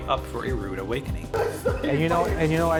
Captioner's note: laughing